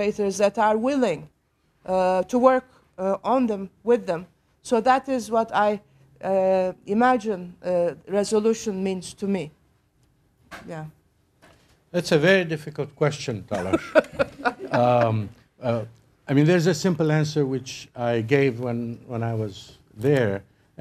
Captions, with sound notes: THEY WILL ALWAYS BE THERE, BUT AT LEAST PEOPLE WILL BE ABLE TO LIVE WITH THEM AND KNOW THAT, YOU KNOW, THERE ARE OTHERS ESPECIALLY THE DESCENDANTS OF THE PERPETRATORS THAT ARE WILLING TO WORK ON THEM-- WITH THEM, SO THAT IS WHAT I IMAGINE RESOLUTION MEANS TO ME. YEAH. >> THAT'S A VERY DIFFICULT QUESTION, TALASH. [ LAUGHTER ] I MEAN, THERE'S A SIMPLE ANSWER WHICH I GAVE WHEN I WAS THERE.